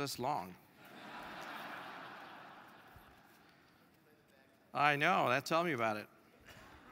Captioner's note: laugh